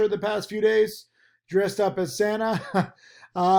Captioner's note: laughs